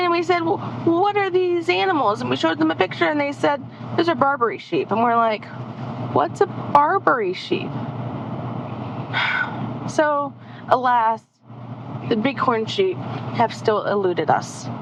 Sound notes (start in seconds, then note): 9.1 sigh